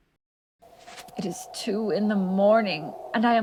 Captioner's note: howling wind